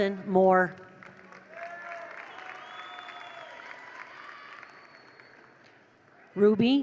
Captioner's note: attendees applaud; attendees cheer